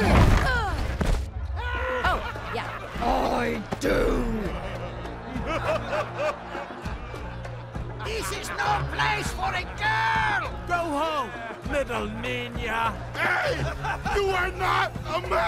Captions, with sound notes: Oh, yeah. (deepens voice) I do. (spectators laughing) - This is no place for a girl. - Go home, little ninya. - Hey. You are not a man.